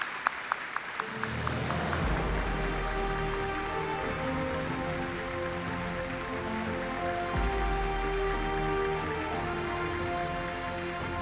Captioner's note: applause